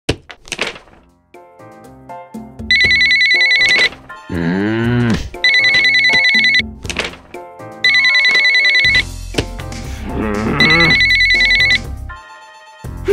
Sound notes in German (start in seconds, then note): 2.1 Telefon klingelt